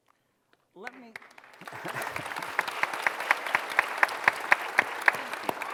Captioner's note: applause